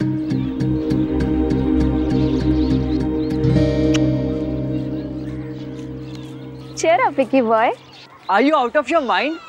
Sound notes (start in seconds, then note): 0.0 tense music playing; 3.8 kissing